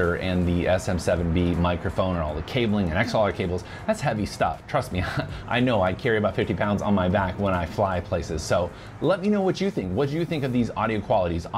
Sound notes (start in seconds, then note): 5.0 chuckling